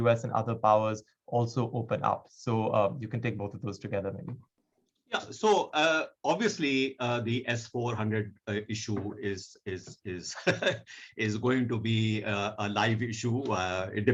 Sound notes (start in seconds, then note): 10.3 chuckles